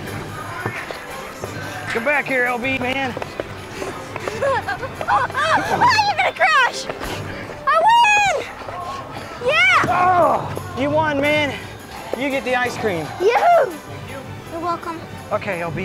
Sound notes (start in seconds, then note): 3.6 laughing